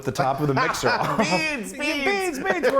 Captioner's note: laughs